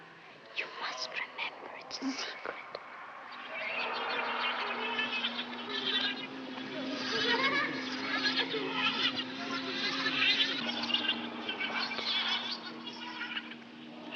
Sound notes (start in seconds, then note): 3.1 children laughing